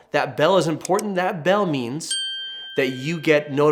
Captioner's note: bell chimes